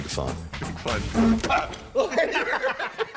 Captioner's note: game board buzzes; men laughing